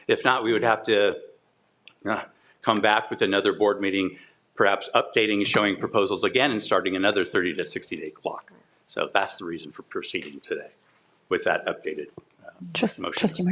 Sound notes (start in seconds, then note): none